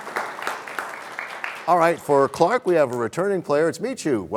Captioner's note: applause